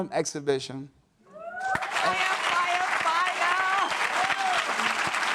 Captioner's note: audience cheers